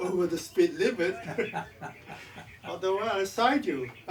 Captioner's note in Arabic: جيري يضحك